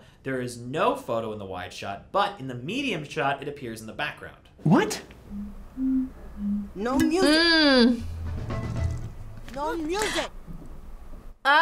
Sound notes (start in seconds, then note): 5.2 bottle whistling